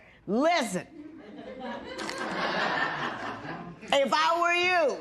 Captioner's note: laughter